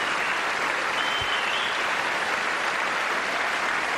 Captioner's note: applause